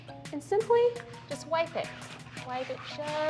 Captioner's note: sound of wiping mat